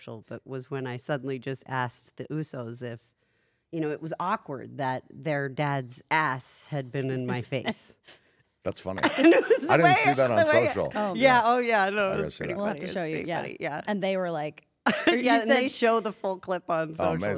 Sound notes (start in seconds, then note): 9.0 laugh